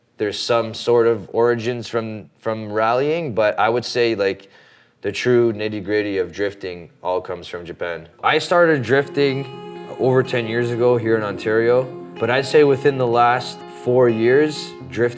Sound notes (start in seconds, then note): none